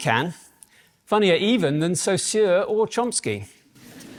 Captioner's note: laughter